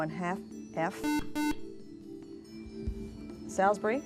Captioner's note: buzzer